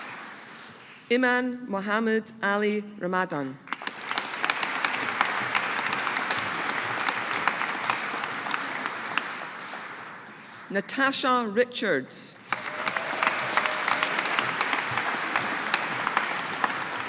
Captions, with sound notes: Iman Mohamed Ali Ramadhan. (AUDIENCE APPLAUDING) Natasha Richards. (AUDIENCE APPLAUDING)